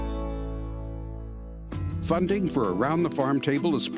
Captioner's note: voiceover